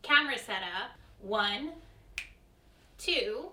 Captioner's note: snaps fingers